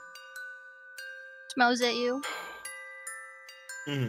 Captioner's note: sighs